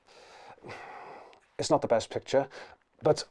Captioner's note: sighs